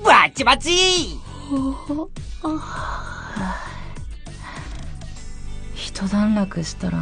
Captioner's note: yawn